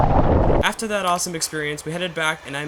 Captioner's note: voiceover